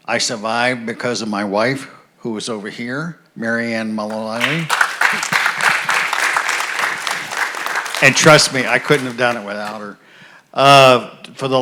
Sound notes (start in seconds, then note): 4.1 audience applauds